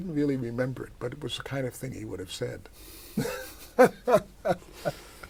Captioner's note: laughter